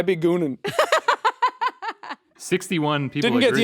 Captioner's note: laughing